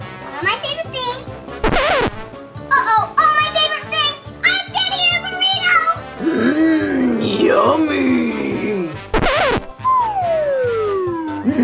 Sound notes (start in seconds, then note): 1.6 record scratches; 9.1 record scratches